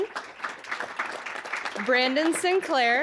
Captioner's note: applause